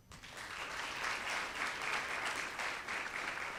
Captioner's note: audience claps